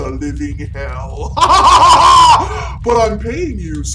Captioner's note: laughing